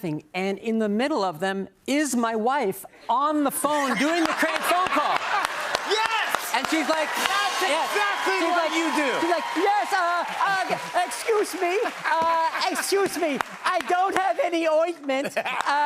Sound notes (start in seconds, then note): 4.7 laughter and applause